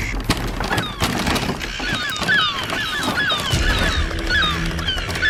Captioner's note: doors bashing